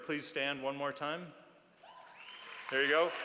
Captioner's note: applause